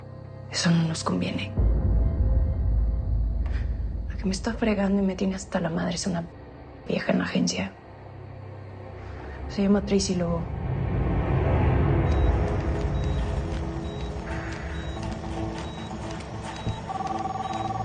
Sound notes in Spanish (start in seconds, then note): 12.1 Sonidos de telemetría